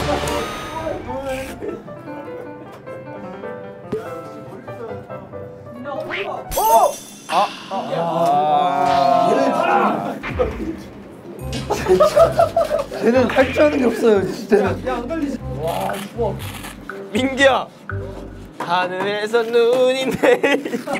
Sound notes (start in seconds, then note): 6.1 quack; 15.6 scraping